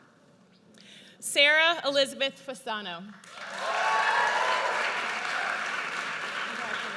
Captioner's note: audience cheers